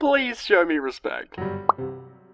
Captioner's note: pop